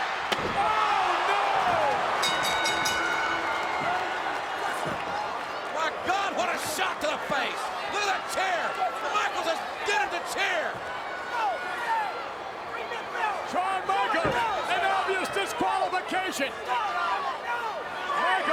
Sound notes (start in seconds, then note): 0.2 chair thuds; 2.1 bell rings